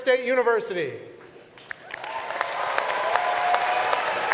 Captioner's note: applause